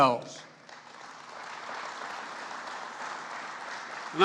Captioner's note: applause